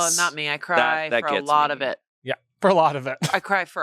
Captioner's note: laughs